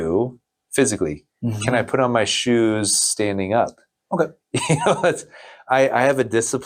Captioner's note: laughs